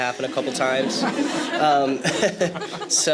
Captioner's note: laughter